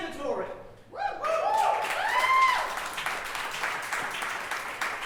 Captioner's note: audience cheering